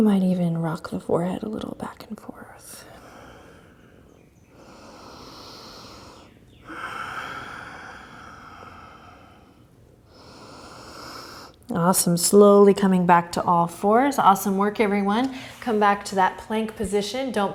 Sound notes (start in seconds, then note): 4.5 breathing